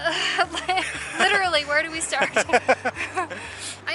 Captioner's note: laughs